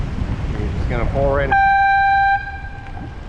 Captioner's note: air horn